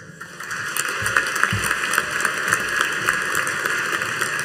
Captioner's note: audience applauding